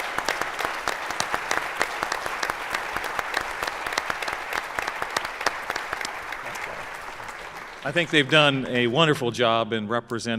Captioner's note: applause